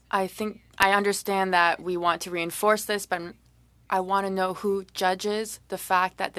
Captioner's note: speaking French